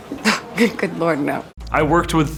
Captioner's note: scoffs